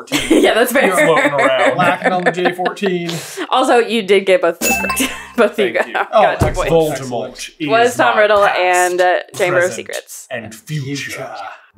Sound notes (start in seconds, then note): 6.6 accented